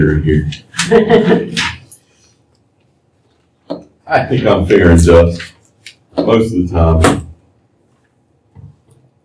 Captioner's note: laughter